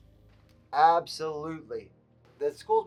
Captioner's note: on phone